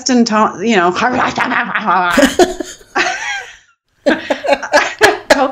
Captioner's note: laughing